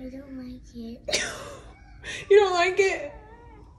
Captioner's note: laughs